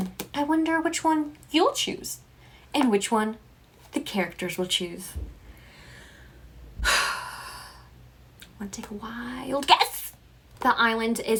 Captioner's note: deep sigh